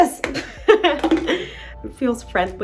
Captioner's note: Zazie laughs